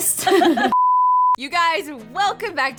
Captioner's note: laughing